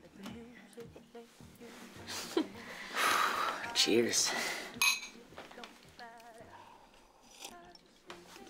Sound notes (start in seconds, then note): 4.8 glass clink